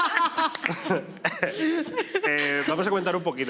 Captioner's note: laugh